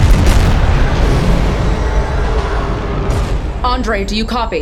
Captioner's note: explosion sound; acceleration sound